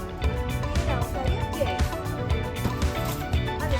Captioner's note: indistinct chatter